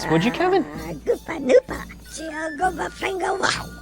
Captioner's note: speaking ewok